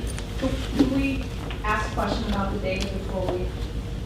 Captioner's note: voiceover